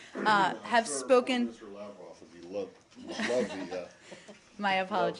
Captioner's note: laughter